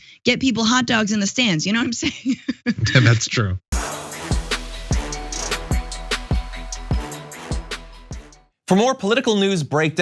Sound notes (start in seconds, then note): 2.2 laugh